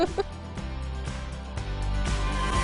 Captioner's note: chuckling